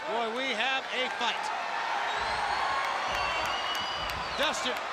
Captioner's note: crowd cheering